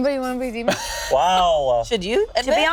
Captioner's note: laughing